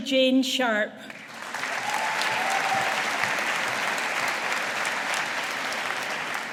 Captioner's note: audience applauding